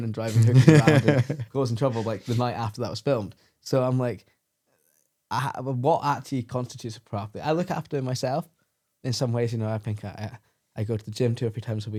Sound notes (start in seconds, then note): 1.8 laughs